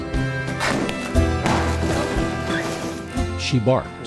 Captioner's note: balloons popping